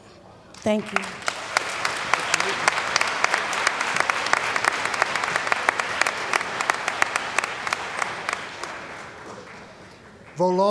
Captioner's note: applause